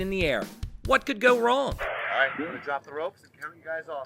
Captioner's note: male Voice